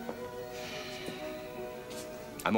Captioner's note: sighs